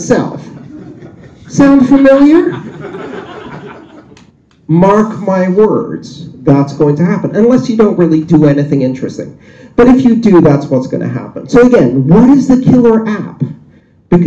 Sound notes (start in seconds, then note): 2.2 laughter